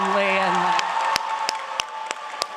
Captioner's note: applause